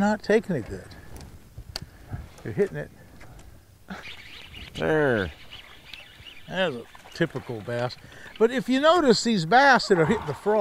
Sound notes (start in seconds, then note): 3.9 reel spinning